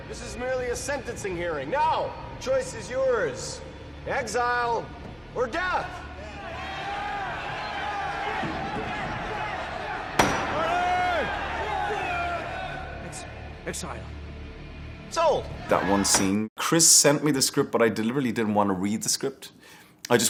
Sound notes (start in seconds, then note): 10.1 gavel thuds; 16.1 gavel thuds